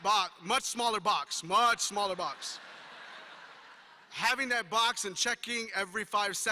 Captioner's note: laughter